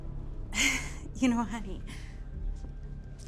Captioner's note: laughs